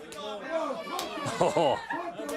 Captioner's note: crowd chatter